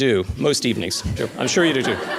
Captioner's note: laughter